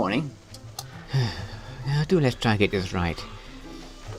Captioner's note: sighs